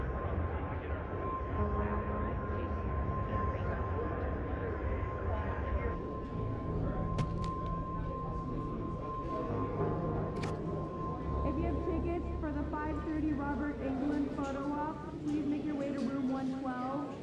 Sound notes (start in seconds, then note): 3.0 people murmuring